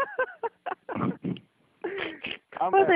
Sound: laughing

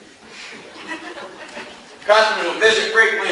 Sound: class laughs

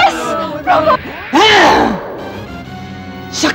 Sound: grunting

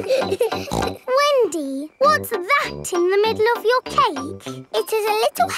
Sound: snorts

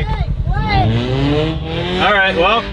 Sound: engine revving

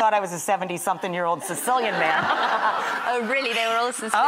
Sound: laughs

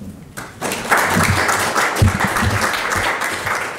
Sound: audience claps

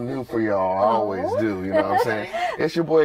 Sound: laughter

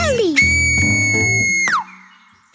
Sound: whistles loudly

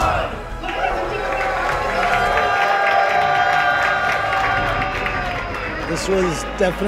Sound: cheering

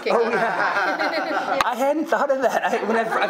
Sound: many laughing

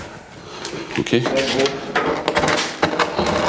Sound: rattling, murmuring

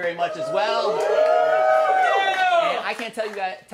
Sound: shouting and applause

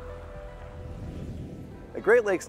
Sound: air whooshing

